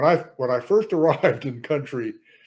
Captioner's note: laughs